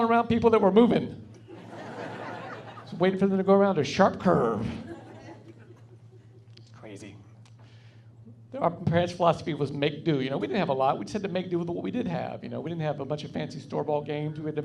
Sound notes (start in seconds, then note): 1.5 laughing; 4.8 laughing